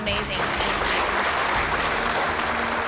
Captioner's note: applause